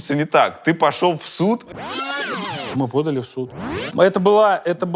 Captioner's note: rewind sound